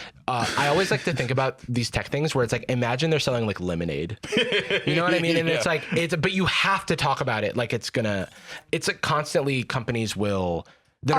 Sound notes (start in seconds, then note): 4.2 laughs